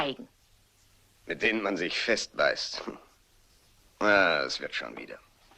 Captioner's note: chuckles